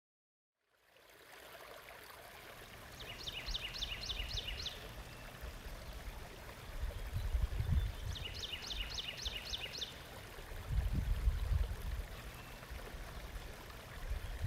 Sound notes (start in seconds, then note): 1.1 water burbling; 3.0 bird chirping; 5.0 water burbling; 7.6 bird chirping